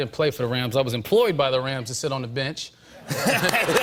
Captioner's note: laughter and applause